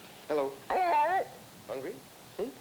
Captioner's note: parrot Talking